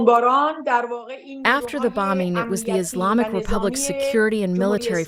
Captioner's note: through translator